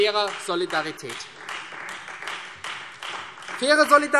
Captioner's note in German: Beifall Freie Demokraten und vereinzelt CDU